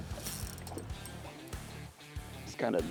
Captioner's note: upbeat country music; fishing rod clicking; upbeat country music